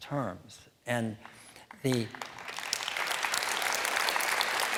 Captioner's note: applause